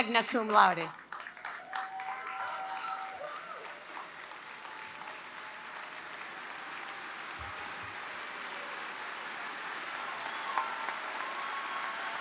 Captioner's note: applause